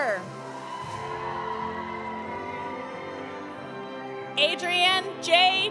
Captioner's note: audience cheering; audience applauding